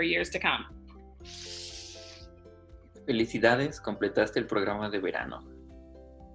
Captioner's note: spanish